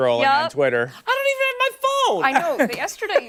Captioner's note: laughter